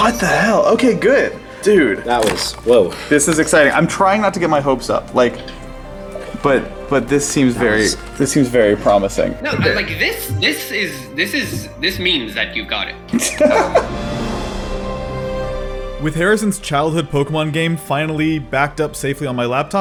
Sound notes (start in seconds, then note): 13.1 relieved laughter; 14.6 emotional music; 15.9 voiceover